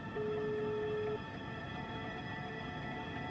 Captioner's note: phone hums